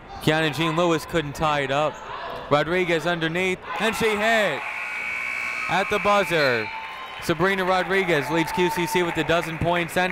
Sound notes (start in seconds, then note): 4.6 buzzer ringing